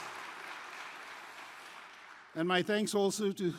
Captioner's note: applause